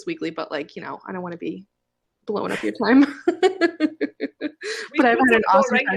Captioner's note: laughs